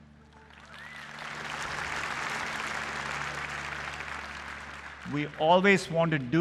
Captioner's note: applause